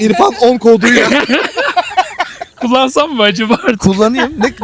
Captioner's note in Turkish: kahkaha